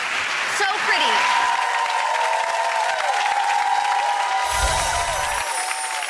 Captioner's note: applause